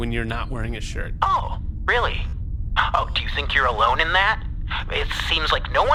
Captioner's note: very sarcastic